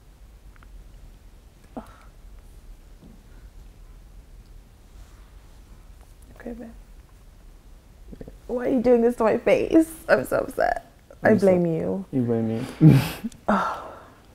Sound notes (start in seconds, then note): 1.7 sighs; 12.6 chuckles